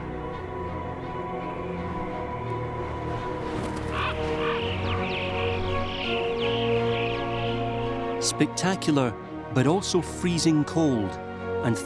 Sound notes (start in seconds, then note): 3.6 crows cawing